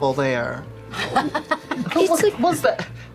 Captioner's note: laughs